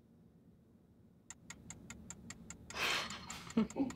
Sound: timer ticking; laughing

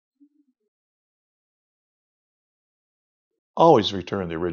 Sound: silence

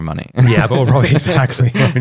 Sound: laughter

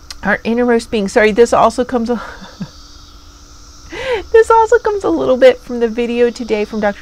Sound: laughs

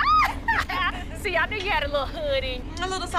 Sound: screams

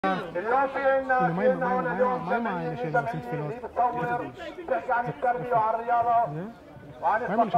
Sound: Arabic

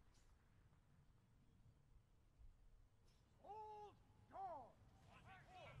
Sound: soldiers shouting commands

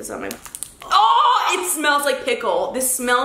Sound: groans

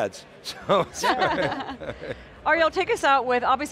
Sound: panel laughs

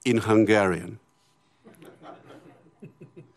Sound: laughter

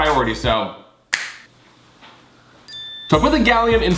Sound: fingers snapping; light ding

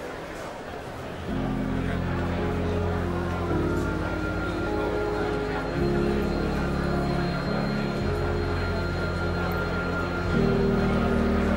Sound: sound of people muttering; bigger sound of people muttering with miserable music

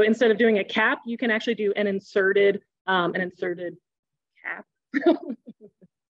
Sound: laughs

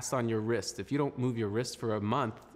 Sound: speaking French

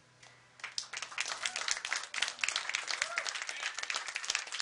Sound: applause

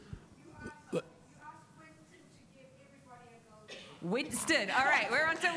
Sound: speaking faintly off mic

